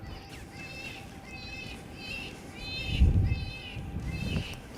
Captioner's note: animals calls